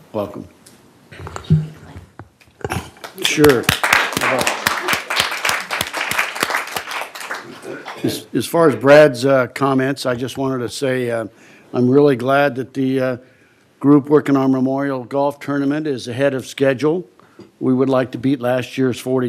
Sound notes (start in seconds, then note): 8.9 applause